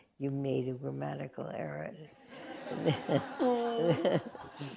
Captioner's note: laughter